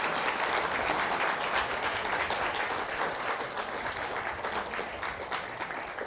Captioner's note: applause